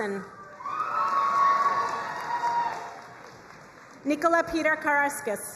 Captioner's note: crowd cheering and applauding